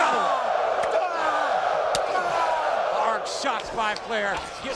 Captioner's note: crowd wooing